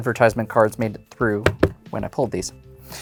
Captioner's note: thumps cards